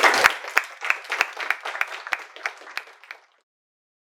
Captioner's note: clapping